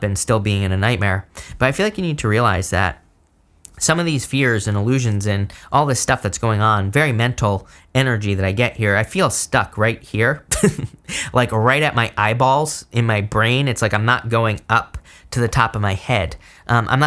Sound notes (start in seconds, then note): 10.5 chuckles